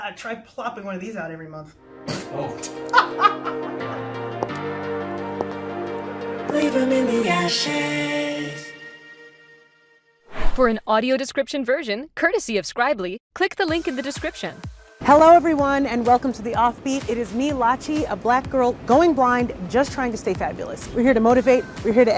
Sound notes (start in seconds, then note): 2.7 laughs; 4.9 sound of clicking heels